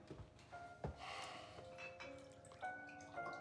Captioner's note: sighs